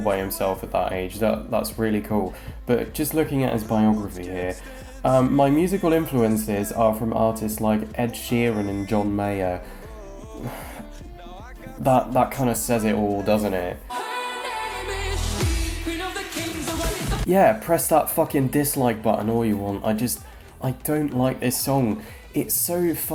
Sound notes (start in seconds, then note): 9.6 sighs